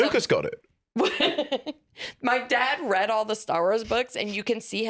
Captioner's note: laughs